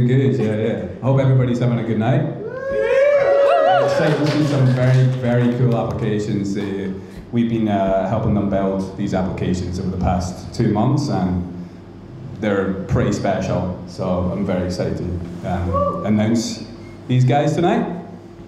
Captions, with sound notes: - Doing good. I hope everybody's having a good night. (crowd applauding) (crowd cheering) Excited to see some very, very cool applications. We've been helping them build these applications over the past two months and they're pretty special. So I'm very excited. To announce these guys tonight.